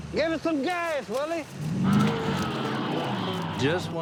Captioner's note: motor charging